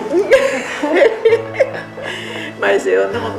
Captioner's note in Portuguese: risadas